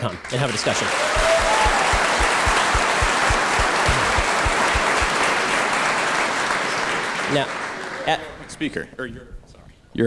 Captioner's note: audience applause